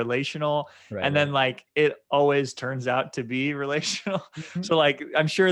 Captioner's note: chuckling